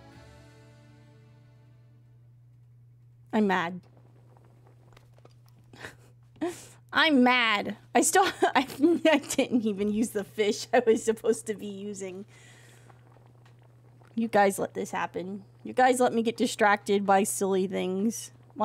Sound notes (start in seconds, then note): 5.7 laughs; 8.2 laughs